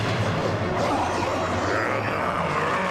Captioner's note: grunting